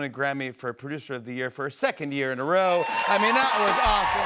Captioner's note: cheers and applause